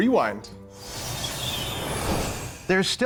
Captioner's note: ethereal whooshing